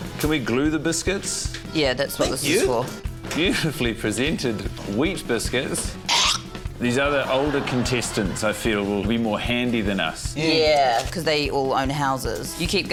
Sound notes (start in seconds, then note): 6.1 hoiks spit